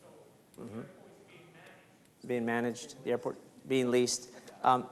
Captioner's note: speaks faintly